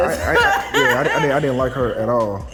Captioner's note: laughing